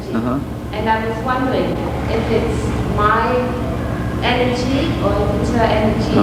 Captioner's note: laughing